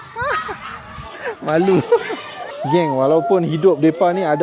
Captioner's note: laugh